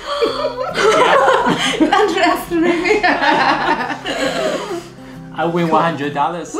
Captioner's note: laughters